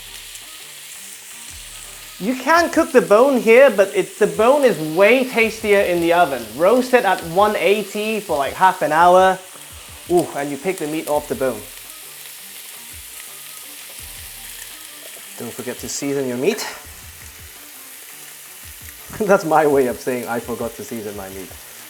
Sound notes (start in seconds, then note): 12.5 sizzling sound